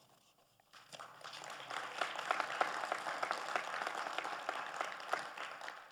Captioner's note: audience applauding